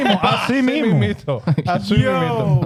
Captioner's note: speaking In Foreign Language